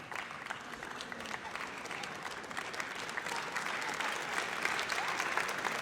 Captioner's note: audience applauds